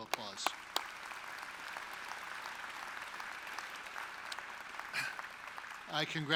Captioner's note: applause